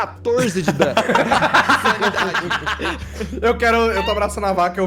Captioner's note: everyone laughs